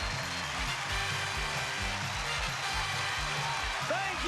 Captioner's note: cheers and applause